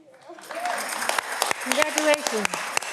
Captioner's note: audience clapping